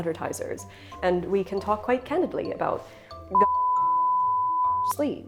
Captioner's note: beeping